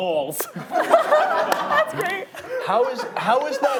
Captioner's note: laughing